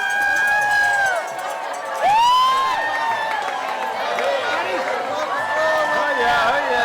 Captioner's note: crowd cheering